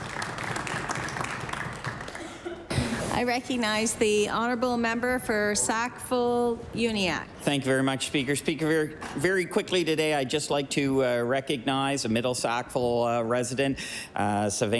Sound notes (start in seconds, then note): 2.6 applause